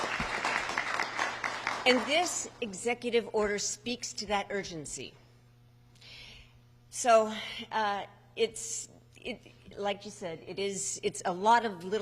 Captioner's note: applause